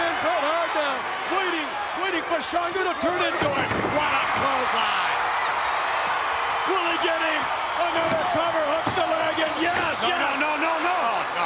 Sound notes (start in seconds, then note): 5.2 crowd cheering